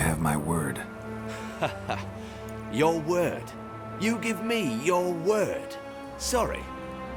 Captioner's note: dismissive chuckle